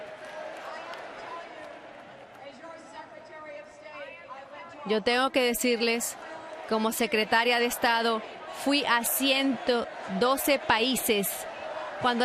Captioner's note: audience chanting "hillary"